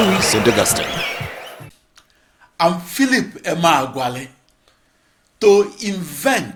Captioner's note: wild applause and cheering for 22 seconds